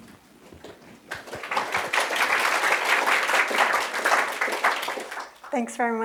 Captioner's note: applause